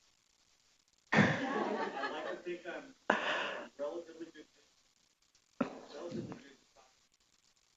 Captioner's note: audience laughs